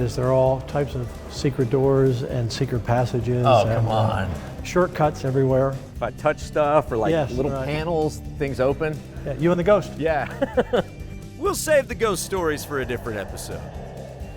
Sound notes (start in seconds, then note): 10.1 laughing